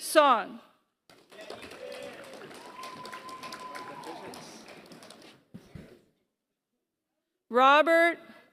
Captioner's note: applause